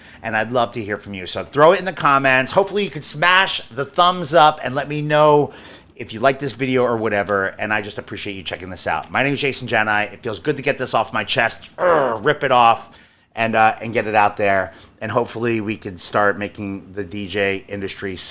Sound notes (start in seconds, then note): 11.8 grunts